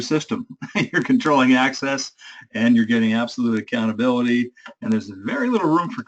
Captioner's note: laugh